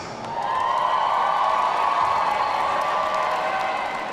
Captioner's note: audience cheering